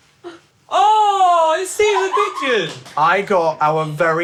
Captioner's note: crew laughing and clapping